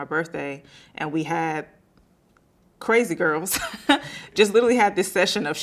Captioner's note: laughing